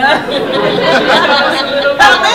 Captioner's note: laughter